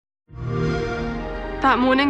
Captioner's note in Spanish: sonido de xbox